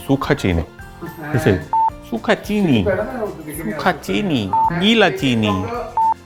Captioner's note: imitating voice